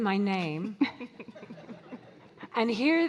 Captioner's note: audience laughing